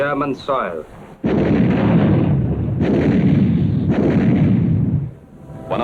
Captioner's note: explosions